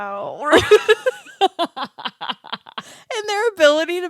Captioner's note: laughing